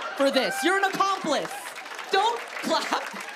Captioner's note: applause